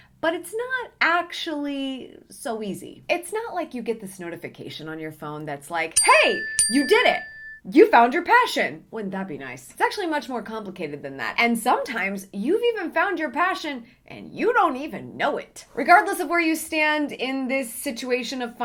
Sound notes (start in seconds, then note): 5.9 bell rings